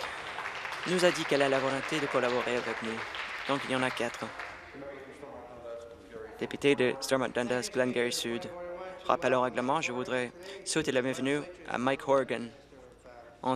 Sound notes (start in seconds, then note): 4.6 applause